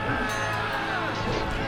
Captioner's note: metal clanging